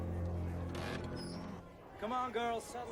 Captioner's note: door creaks open